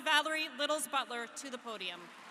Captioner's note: applause